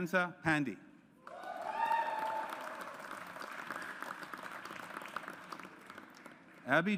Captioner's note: audience applauds